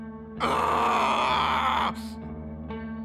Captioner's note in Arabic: صراخ